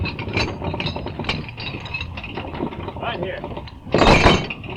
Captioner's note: chains rattling